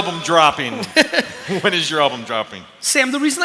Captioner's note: laughter